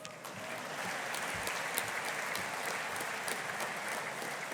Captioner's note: audience applauding